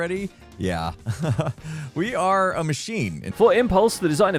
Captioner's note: chuckles